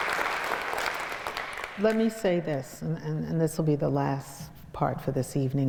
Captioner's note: applause